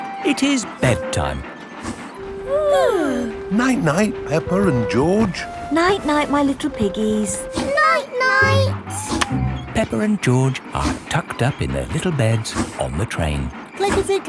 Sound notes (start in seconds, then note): 2.4 both yawning